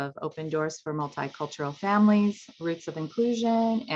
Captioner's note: water splashing